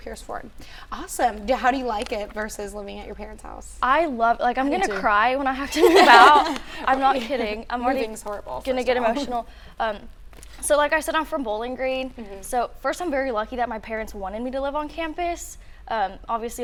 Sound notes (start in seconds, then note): 5.7 laughing